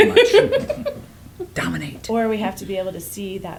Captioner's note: giggles